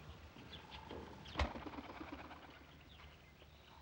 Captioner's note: wings flutter